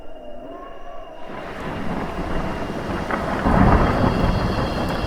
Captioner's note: wind blows